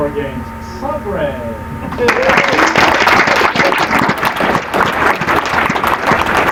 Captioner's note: applause